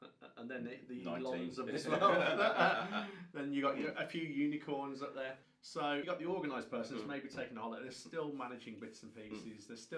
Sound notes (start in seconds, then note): 1.9 both men laugh